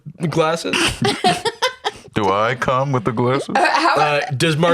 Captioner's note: laughs